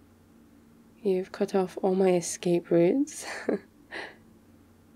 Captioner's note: laughs